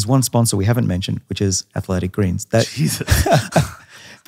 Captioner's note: both laughs